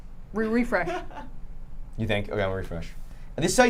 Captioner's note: laughing